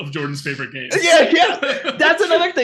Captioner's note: laughing